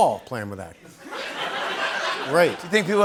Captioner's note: laughter